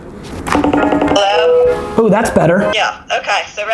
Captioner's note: Skype Rings